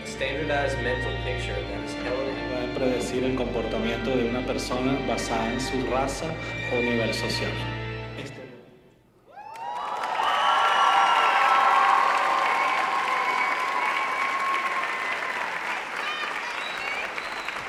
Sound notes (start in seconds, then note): 3.1 speaking in Spanish; 9.4 audience applauding